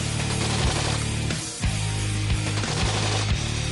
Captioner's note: guns firing